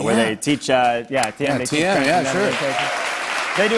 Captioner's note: applause